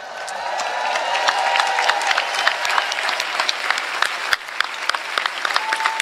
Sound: applause

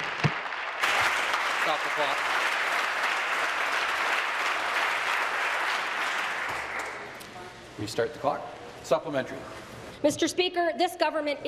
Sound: applause

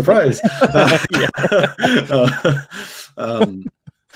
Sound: laughs

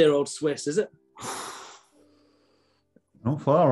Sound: inhales

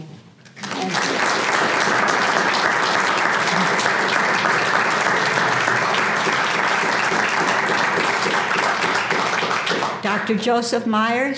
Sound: applause

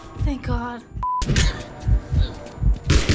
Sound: Ellie groans; gunfire

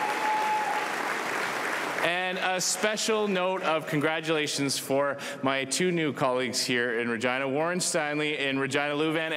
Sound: cheering and Applause

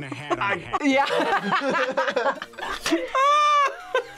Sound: both laugh; laughs

